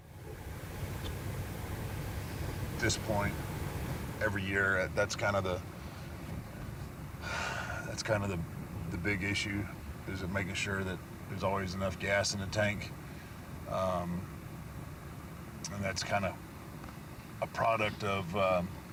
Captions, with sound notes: At this point every year, that's kind of the, (sighs) that's kind of the big issue is making sure that there's always enough gas in the tank. And that's kind of a product of